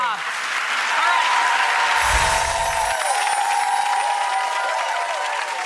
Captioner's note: audience applauds